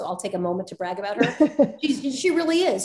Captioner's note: laughs